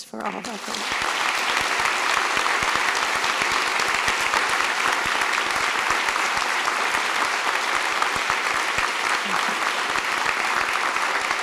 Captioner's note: applause